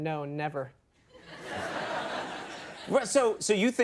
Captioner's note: audience laughs